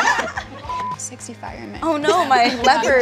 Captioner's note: camera beeps; all laughing; camera beeps